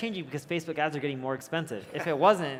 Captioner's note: laughs